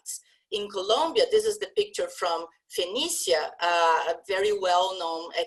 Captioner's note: spanish